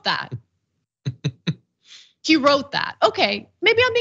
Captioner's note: laugh